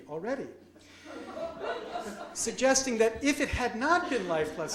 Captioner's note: audience laughs